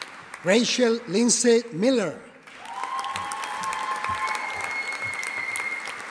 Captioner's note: audience applauding